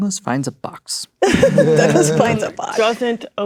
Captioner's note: players laughing